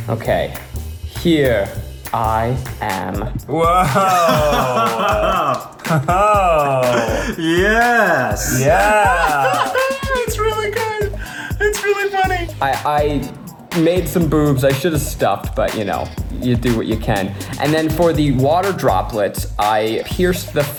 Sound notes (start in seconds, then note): 3.6 laughs